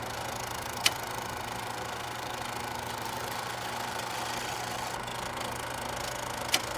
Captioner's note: sounds of old time movie projector